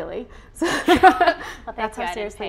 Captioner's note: chuckling